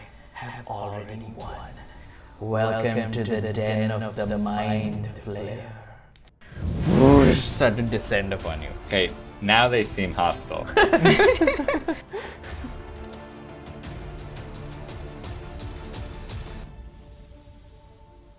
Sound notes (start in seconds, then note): 6.4 whoosh; 10.7 laughter